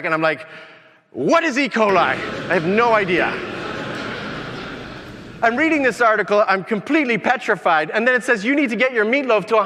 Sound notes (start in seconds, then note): 1.8 audience laughing